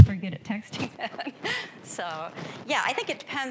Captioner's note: laughing